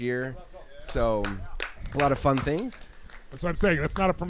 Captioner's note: claps